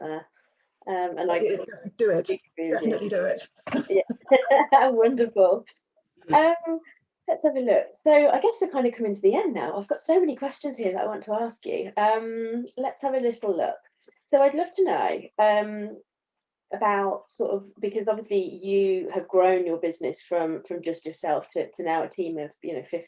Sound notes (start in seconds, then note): 3.6 both laugh